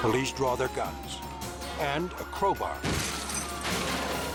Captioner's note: glass shattering